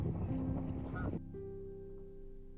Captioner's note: duck quacks